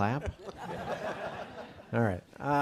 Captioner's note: audience laughing